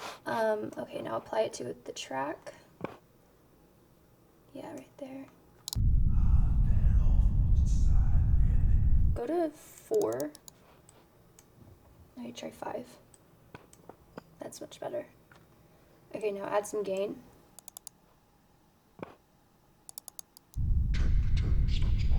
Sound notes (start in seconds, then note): 5.8 speaking foreign language; 9.9 mouse clicks; 17.6 mouse clicks